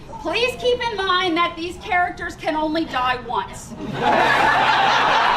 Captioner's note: laughter